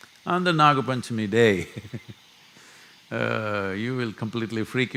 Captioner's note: laughs